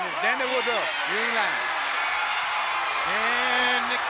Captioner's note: crowd reacts